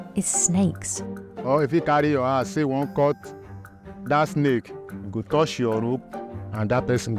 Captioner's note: speaking in foreign language